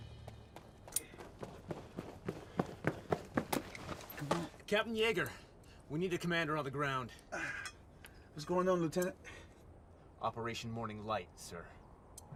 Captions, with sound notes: [RUNNING FOOTSTEPS] CAPTAIN YEAGAR, WE NEED A COMMANDER ON THE GROUND. WHAT'S GOING ON, LIEUTENANT? OPERATION MORNING LIGHT, SIR.